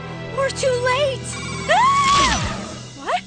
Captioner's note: screams